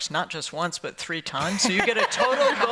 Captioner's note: laughter